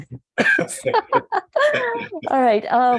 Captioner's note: laughing